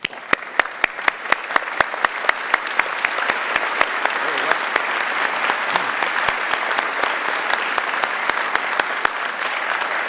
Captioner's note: applause